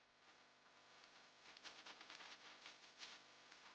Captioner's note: paws pattering